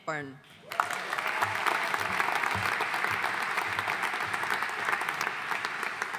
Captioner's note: audience cheering and applauding